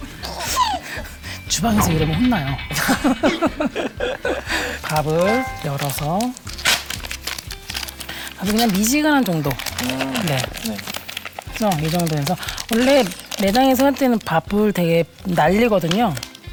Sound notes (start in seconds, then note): 3.1 scooping water in a hurry